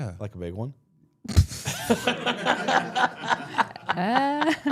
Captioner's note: all laughing